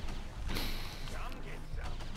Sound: sniffle

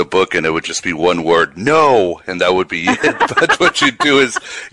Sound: laughs

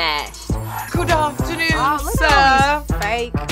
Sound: British accent

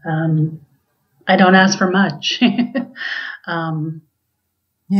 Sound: giggles

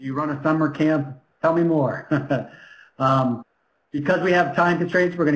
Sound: laughs

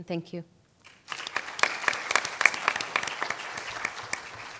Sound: applause

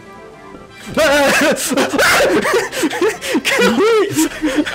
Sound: monkey noises

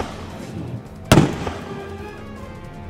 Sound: gunshot

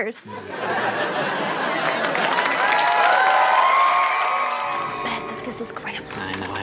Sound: audience laughter

